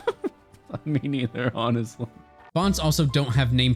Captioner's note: laughs